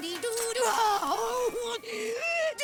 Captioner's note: pained sounds